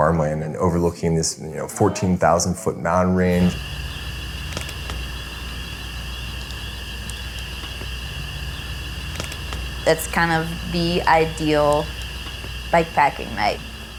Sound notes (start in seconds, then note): 3.0 crickets chirping